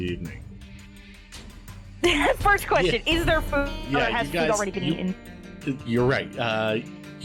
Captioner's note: chuckles